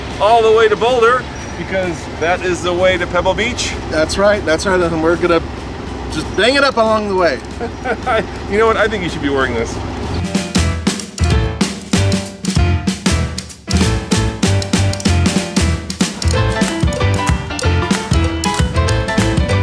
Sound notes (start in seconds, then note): 7.4 laughs; 10.2 upbeat music